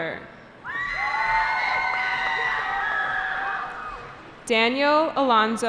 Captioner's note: cheering